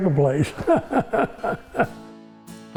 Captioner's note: chuckles